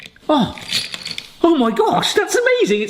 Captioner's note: bell jingles